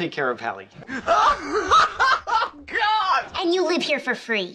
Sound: uproarious laugh track

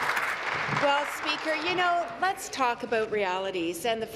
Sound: applause

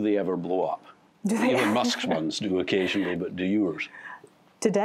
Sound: laughter

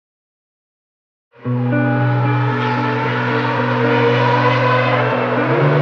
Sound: hum of racecars

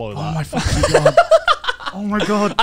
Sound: laughs

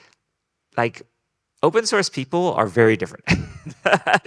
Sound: laughing

